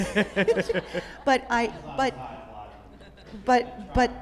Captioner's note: group continues laughing; group laughing